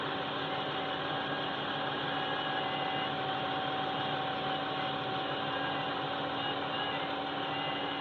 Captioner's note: running diesel engine; powhiri in female Māori voice starts